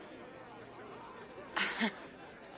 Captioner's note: laugh